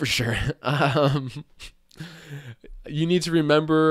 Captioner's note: chuckling